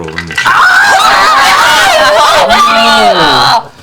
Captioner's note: screaming